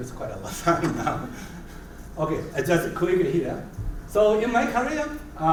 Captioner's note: laugh